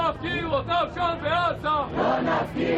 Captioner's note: chanting